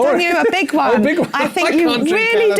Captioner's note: laugh